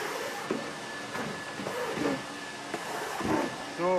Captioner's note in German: Lautes Staubsaugen